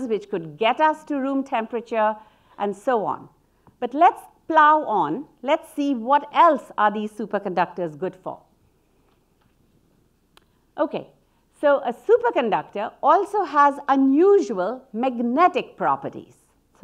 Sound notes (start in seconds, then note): none